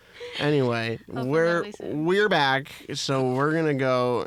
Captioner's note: laughs